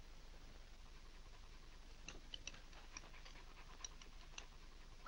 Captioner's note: dog panting